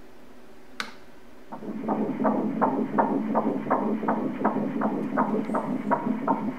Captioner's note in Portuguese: batimentos cardíacos